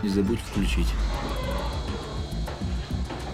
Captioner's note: whirring